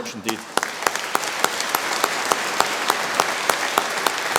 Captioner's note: audience applauding